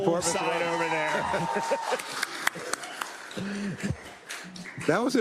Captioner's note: applause